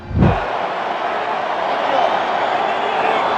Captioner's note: crowd cheering